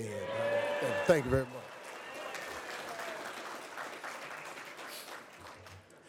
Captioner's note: crowd cheers